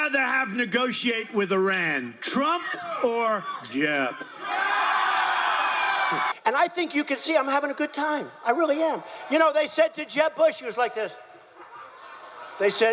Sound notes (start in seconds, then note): 5.6 crowd